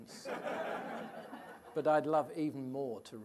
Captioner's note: audience laughing